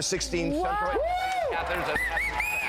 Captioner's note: hosts and audience applaud